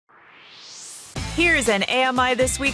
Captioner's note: swoosh